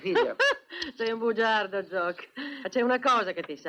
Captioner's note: chuckling